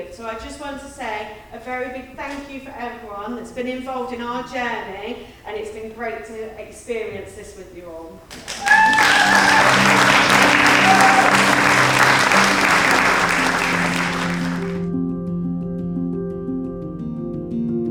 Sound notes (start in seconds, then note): 8.3 audience applauding; 15.2 lively music